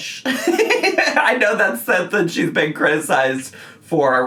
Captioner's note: laughs